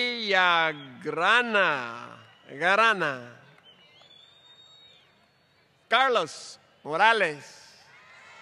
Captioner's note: applause; applause